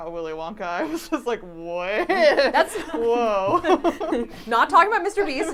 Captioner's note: laughs